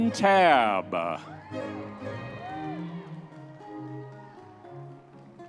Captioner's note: audience members cheering